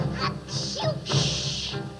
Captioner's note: sneezing